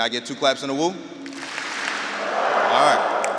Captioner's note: audience clapping and wooing